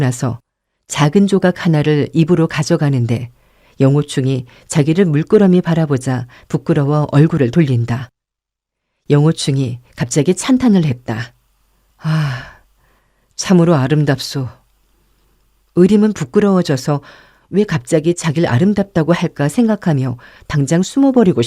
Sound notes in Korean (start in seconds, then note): 12.0 한숨; 12.0 헉 소리